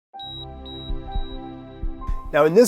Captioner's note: medical device beeping